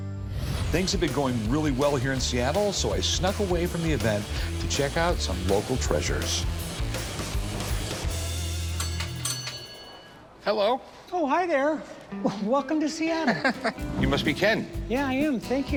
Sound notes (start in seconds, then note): 8.4 dinging